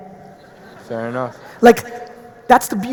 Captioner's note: audience laughing